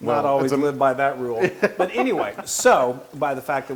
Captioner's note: laugh